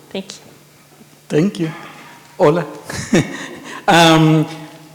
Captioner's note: laughs